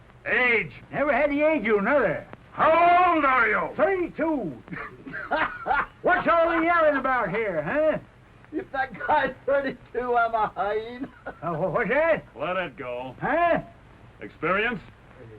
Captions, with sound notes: - Age. - I don't get it. - How old are you? - 32. [ HOLLY LAUGHTER ] What's all the yelling about here? [ LAUGHING ] If that guy's 32, I'm a hyena. - What's that? - Let it go. - Huh? - Experience?